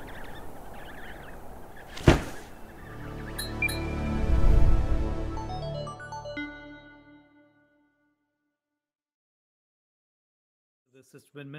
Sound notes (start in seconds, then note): 0.0 baby penguins chirping; 0.0 wind blowing; 1.9 loud thud; 2.0 metallic "blink" sound effect; 2.6 musical drone; 2.9 short uptempo melody; 4.0 whoosh